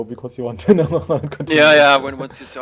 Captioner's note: chuckling